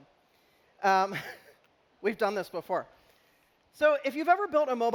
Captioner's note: chuckling